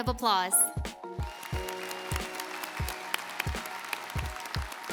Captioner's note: audience applauds